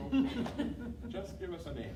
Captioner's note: laughing